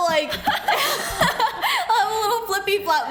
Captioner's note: laughs